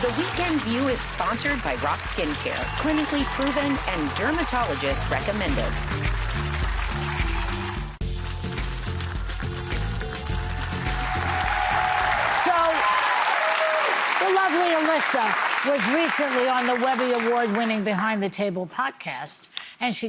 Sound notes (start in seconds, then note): 7.9 audience applauding; 9.1 upbeat music; 9.9 audience cheering